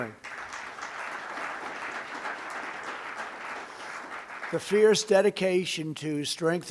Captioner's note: applause